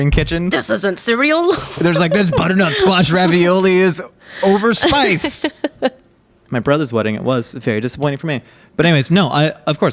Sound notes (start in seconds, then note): 1.5 laughing